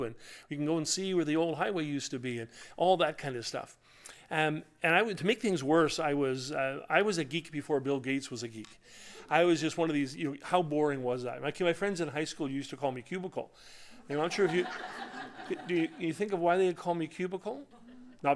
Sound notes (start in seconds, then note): 14.1 laughter